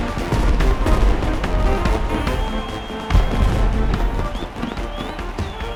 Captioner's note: crowd cheering